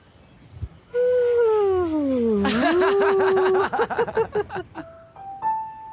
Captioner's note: laughing